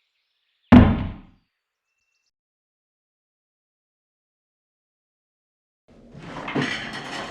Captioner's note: thud